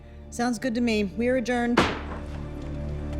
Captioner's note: gavel bangs